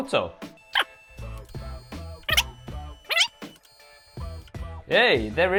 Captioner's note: fast-forwarded voice squeaking